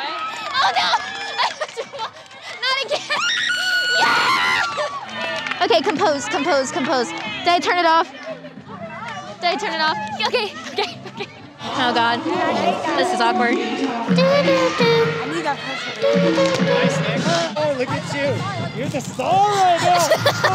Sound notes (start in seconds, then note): 3.2 screaming